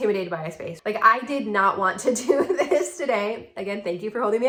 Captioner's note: laughing